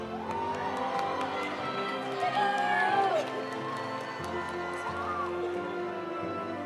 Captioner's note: audience applauding; audience cheering